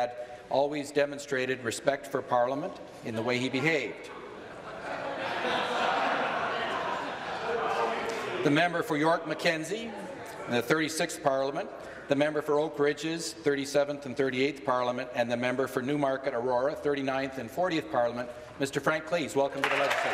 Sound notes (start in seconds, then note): 7.5 laughter